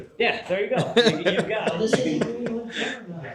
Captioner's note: laughing